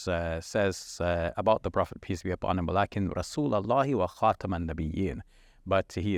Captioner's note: speaking in Arabic